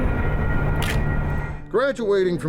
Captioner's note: camera shutter clicks